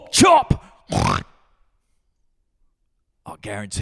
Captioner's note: oink